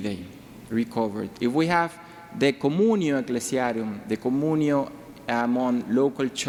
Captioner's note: speaking in foreign language